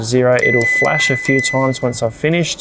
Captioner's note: fridge beeps